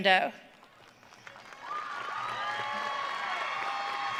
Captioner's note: audience cheering